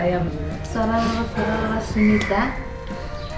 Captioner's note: in Bajika; in Nepali